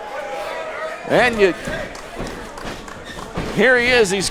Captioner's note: speaking faintly